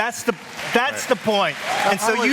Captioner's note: applause